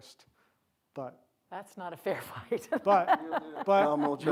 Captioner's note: laughs